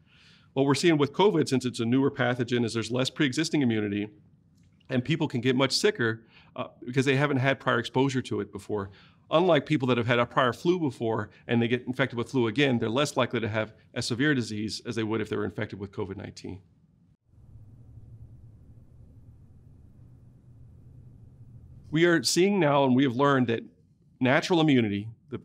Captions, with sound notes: What we're seeing with COVID since it's a newer pathogen is there's less pre-existing immunity and people can get much sicker because they haven't had prior exposure to it before unlike people that have had a prior flu before and they get infected with flu again they're less likely to have as severe disease as they would if they were infected with COVID-19. [silence] We are seeing now and we have learned that natural immunity,